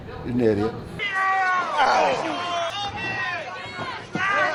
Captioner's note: groaning